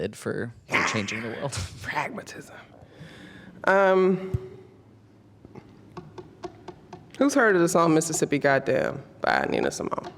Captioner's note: taps